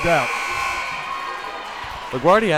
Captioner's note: timer buzzes